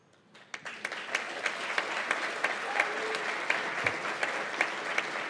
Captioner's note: applause